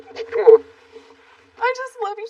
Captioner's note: crying